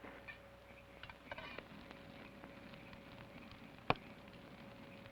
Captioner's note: fire crackles